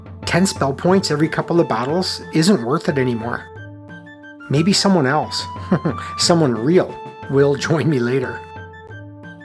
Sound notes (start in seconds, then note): 5.5 chuckles